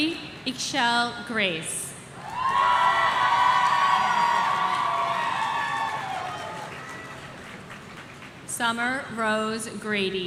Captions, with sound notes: Siri Eshelle Grace. (audience cheering) Summer Rose Grady.